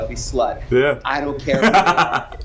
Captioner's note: laughs